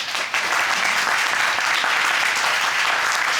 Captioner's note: audience applaud